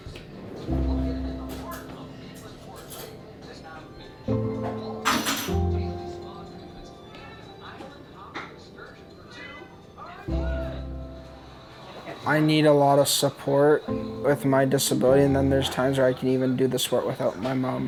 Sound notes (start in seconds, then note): 0.1 contemplative music; 5.0 noises coming from kitchen, cat meowing